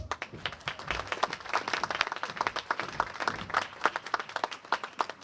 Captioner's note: applause